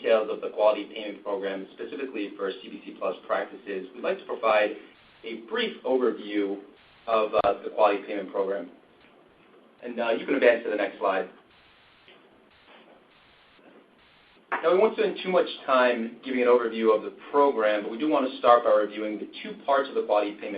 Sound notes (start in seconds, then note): 11.4 silence